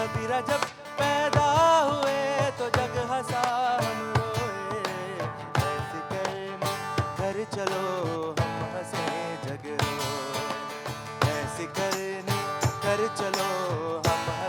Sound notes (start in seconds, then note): none